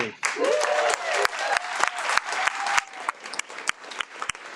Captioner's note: audience applauds